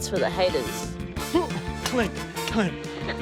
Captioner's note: grunts